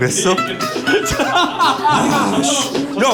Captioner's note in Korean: 대폭소